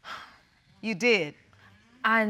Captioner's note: exhales